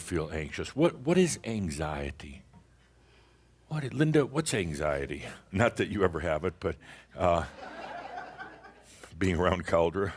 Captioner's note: some chuckles